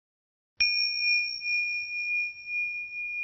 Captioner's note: bell rings